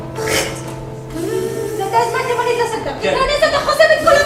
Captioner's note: in French accent